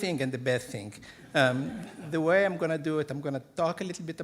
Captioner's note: audience laughing